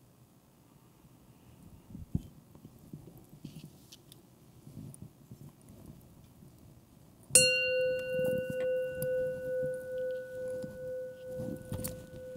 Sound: gong Sounds

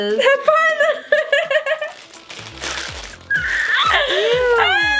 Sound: laughs

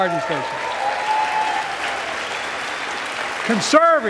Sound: applause

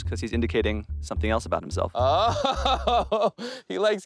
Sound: laughs

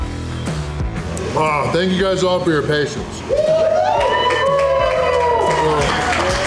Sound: crowd cheering

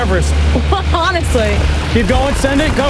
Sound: chuckles

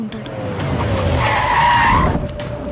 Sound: brakes squeal

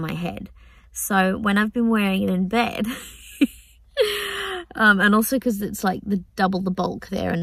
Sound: laughs

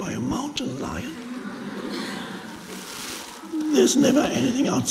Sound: audience laughs

